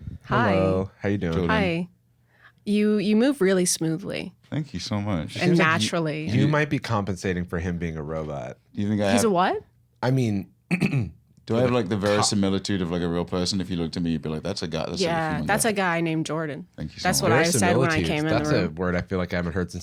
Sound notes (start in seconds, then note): 10.7 clears throat